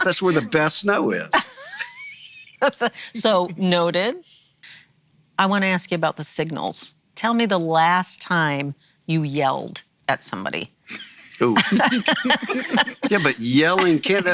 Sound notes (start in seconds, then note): 11.4 laughing